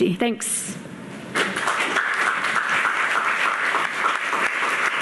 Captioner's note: audience clapping